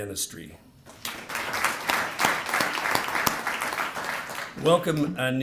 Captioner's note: applause